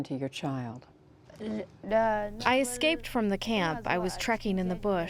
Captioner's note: through translator